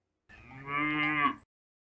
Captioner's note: mooo